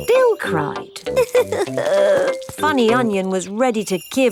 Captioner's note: crying